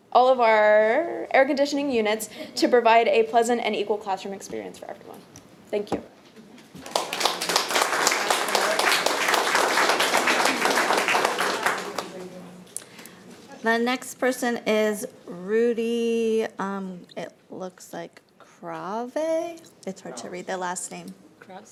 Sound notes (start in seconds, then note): 6.8 audience applauding